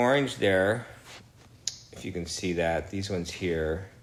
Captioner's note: smacks lips